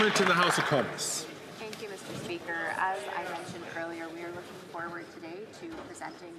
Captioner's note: some Applause